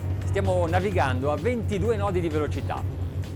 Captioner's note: funky music; man speaks in foreign language